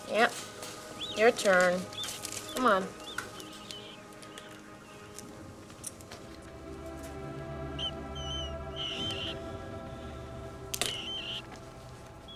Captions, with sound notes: Yep, your turn. Come on. (soft dramatic music) (mouse squeaking)